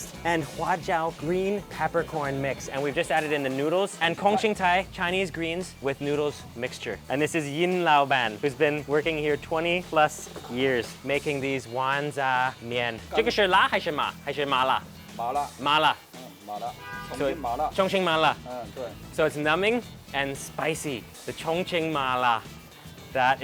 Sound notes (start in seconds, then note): 0.5 speaks in a foreign language; 3.9 speaks in a foreign language; 13.2 speaks in a foreign language